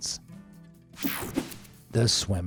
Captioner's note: screen buzzes and whooshes